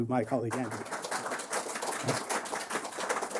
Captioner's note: applause